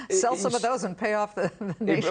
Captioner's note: laughter